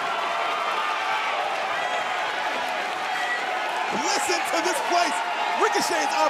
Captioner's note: cheers and applause